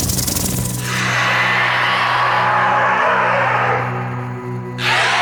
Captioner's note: snake growls